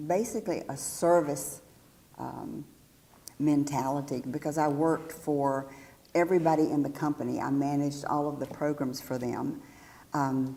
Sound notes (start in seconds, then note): none